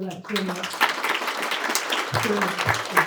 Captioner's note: applause